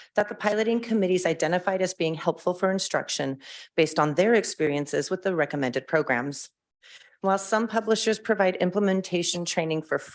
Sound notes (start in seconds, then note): none